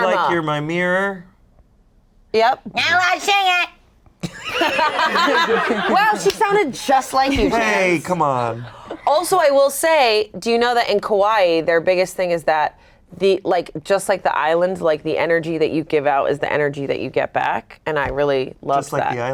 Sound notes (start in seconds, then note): 0.2 singing; 3.3 mocking; 4.2 everyone laughs